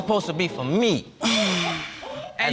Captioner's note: exhales